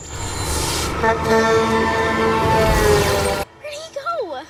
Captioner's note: horn honking